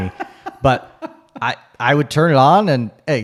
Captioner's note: laughs